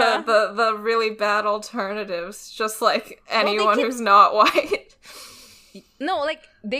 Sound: laughs

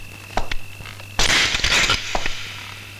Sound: gun thuds

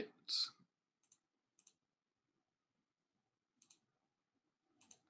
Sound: mouse clicking

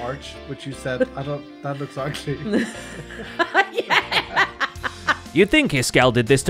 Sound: laughs

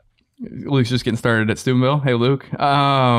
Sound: none

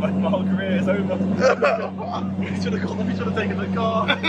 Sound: team mumbling

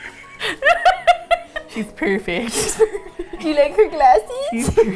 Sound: laughs; laughs

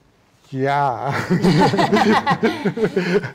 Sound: laughing

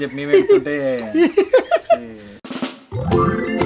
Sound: giggles

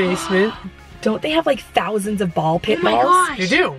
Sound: gasps

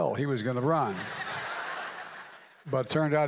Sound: laughter

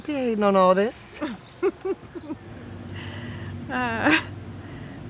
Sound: Alex laughs

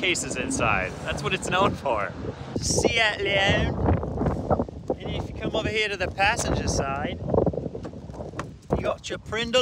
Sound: bad accent

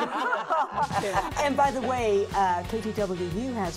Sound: women laughing

